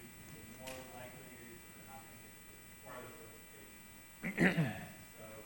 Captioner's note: speaking off mic